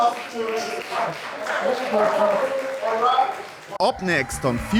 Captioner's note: clapping